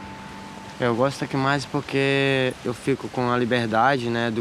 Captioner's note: Brazilian spoken audio